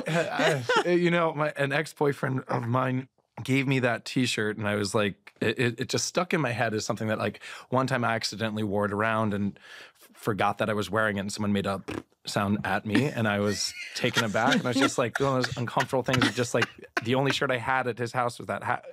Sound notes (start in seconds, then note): 11.8 mimics queef; 13.4 laughter